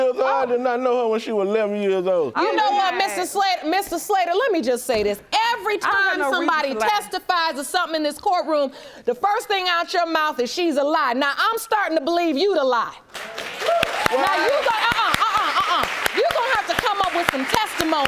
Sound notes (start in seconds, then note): 11.0 audience applauding